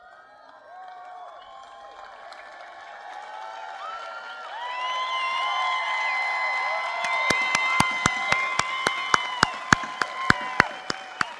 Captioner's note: applause